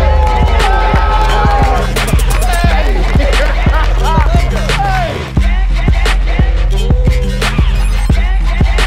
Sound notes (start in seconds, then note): 0.0 crowd cheering; 3.3 crowd cheering and applauding